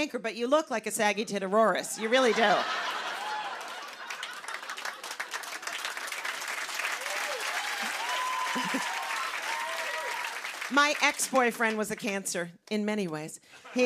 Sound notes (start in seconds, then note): 1.9 laughter; 5.0 cheers and applause; 13.5 laughter